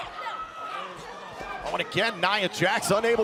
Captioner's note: crowd cheering